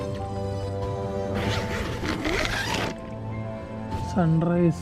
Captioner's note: unzipping